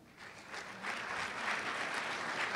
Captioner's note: applause